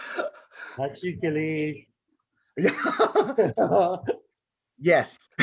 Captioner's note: laughs; faintly speaking